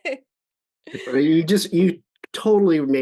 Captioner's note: chuckles